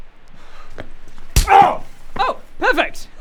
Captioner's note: smack